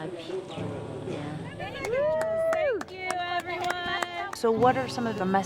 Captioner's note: cheering